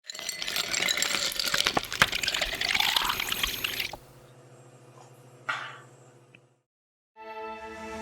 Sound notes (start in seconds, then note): 0.0 ice cubes clinking; 2.3 water flowing